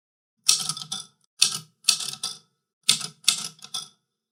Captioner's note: typewriter clicks